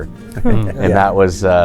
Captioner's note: guys laugh